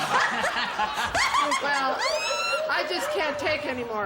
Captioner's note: laughter